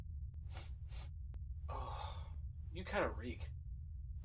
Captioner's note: groans